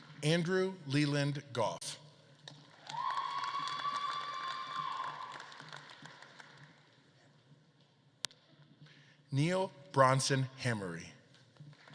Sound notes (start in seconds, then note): 0.0 audience claps and cheers; 2.4 audience claps and cheers; 11.7 audience claps